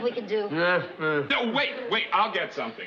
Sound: mumbles

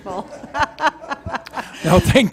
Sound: laughter

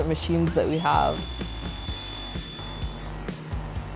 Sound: machine whirring

